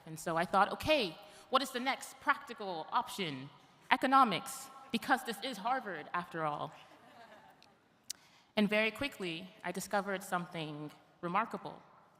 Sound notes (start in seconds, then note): 7.0 audience laughs